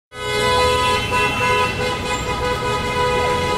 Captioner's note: horns honking